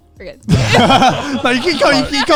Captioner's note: all laughing